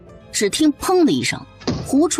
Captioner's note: thud